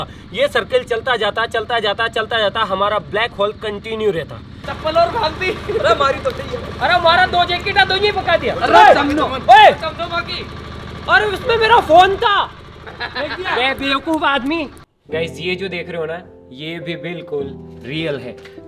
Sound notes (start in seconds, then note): 4.6 local language